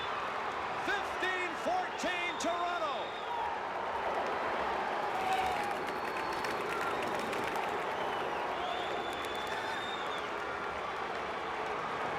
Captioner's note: booing